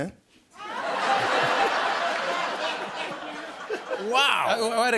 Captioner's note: laughter